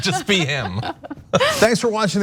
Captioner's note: laugh